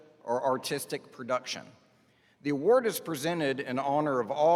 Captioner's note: none